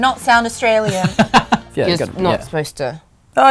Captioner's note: laughs